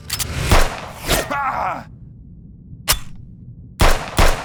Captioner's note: gun firing; Roman screaming; gun firing